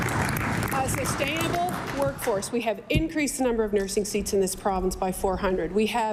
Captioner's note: applause